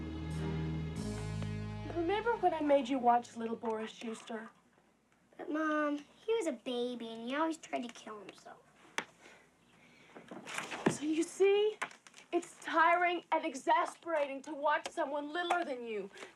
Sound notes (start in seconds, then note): none